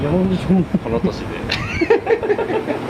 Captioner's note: laughs